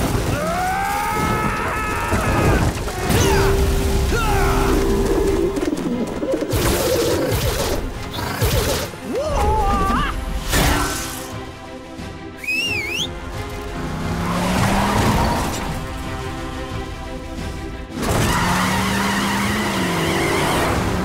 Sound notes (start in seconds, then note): 0.2 grunting; 8.1 grunting; 12.3 whistling; 18.0 tires squalling